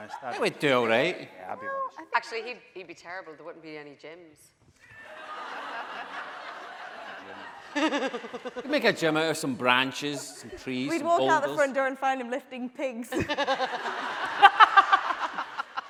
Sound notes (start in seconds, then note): 5.0 audience laughing; 8.1 laughing; 13.1 laughing